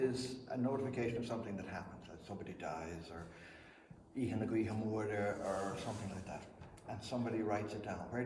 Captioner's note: speaks Irish